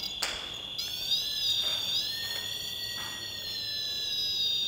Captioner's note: whining